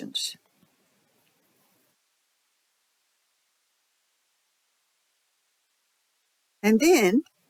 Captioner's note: 6-second silence